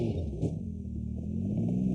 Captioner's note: bang